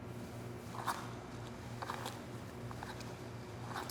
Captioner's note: skates scraping